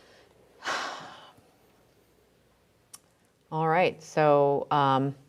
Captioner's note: deeply sighs